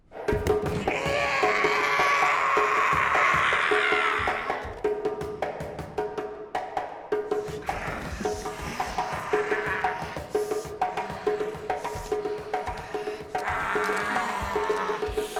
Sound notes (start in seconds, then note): 0.1 shrieking; 0.1 drumming music; 7.4 snarling